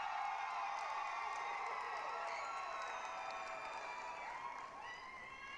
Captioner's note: applause, cheering